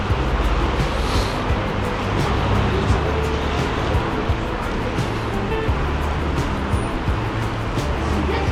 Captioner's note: wind Blowing